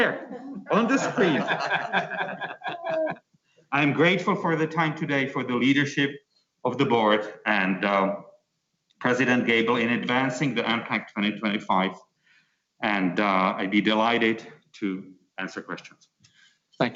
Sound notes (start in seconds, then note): 2.2 laughing